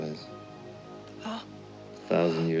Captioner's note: Nina gasps